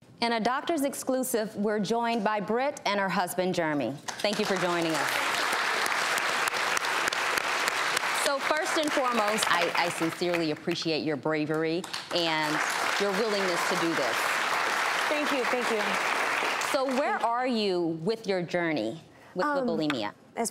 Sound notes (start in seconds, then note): 4.0 audience clapping; 12.4 audience applause